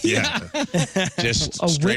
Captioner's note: laughing